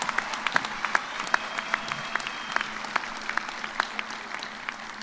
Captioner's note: cheers and applause